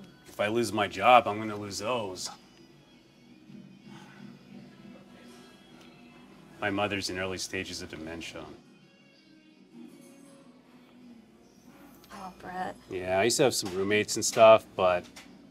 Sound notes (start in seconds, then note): 3.8 Brett sighs